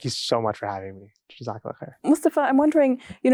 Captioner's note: speaking in foreign language